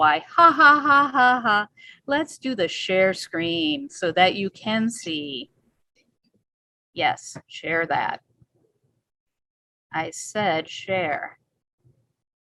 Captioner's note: laughs